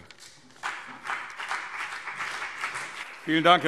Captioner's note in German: Beifall BÜNDNIS 90DIE GRÜNEN und CDU